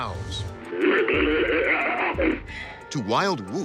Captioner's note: growling